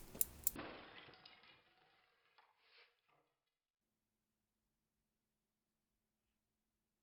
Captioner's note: glass shatters and pendulum stops